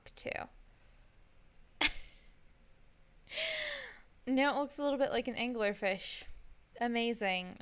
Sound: laughs again

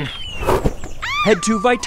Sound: scream

